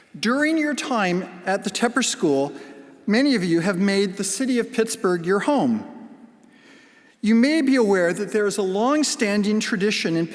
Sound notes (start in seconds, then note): none